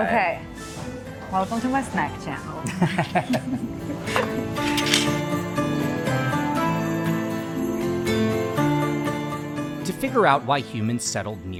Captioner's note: laughs